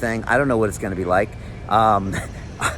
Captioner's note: chuckles